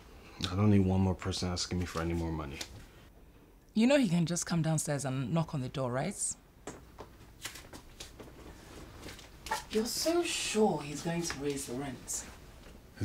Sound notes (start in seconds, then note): none